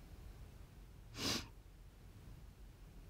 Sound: sniffs

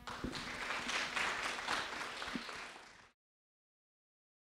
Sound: audience clapping

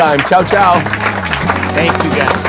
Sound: audience clapping

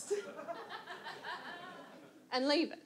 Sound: audience laughs

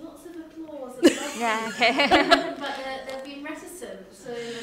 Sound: chuckling

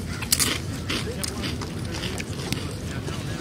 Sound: crunch crunch

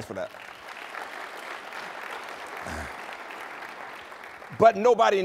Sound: applause

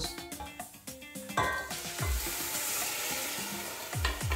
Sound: pan sizzling

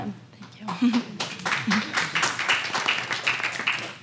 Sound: applause

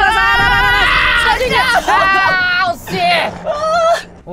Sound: laughing

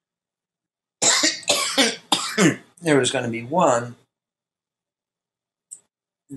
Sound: coughs

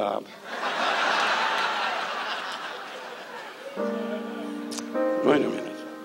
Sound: audience laughs; gentle music

